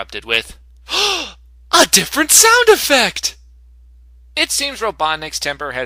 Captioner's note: gasp